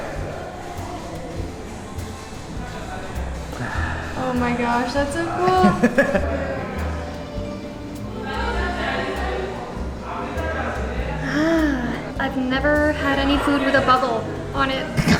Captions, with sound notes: Oh my gosh that's so cool! [Laughs] Ahh! I've never had any food with a bubble on it.